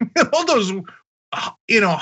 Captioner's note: laugh